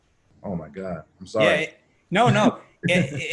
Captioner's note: laughs